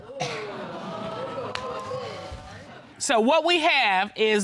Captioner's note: audience exclaims